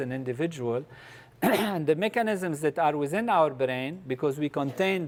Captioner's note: cough